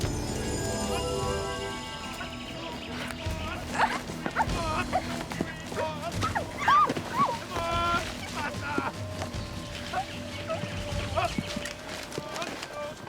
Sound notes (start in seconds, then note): 3.6 whimpering